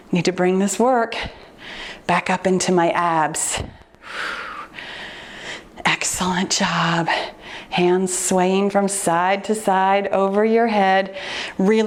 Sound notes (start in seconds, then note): 4.0 exhales deeply